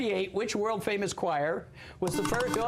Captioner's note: buzzer